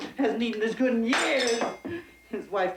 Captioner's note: plate clattering